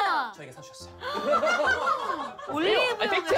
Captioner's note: staff laughing